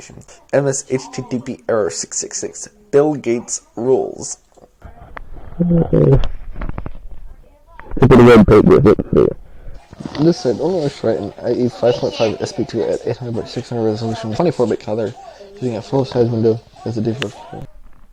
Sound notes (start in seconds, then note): 4.8 distorted